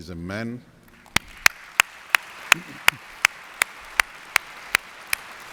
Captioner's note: audience applauds